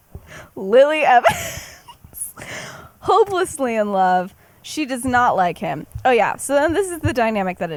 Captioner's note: laughs